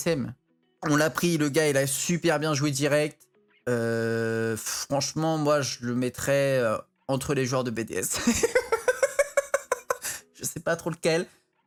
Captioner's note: evil laughter